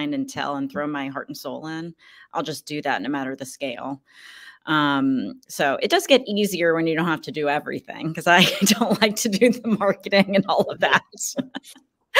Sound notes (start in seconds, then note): 9.4 laughs